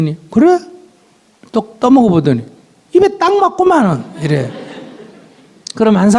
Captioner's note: audience Laughter